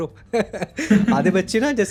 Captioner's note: laughs